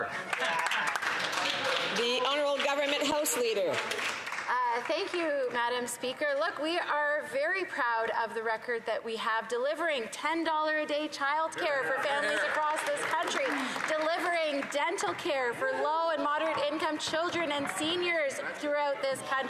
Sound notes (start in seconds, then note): 3.5 some Applause